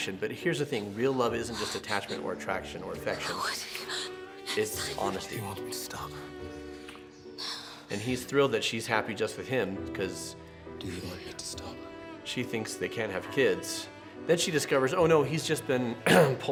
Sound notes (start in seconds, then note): 7.0 lips smacking; 16.0 clears throat